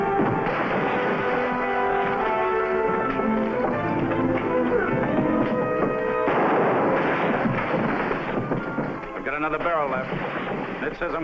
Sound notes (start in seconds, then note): 0.6 objects rattling; 6.4 gun firing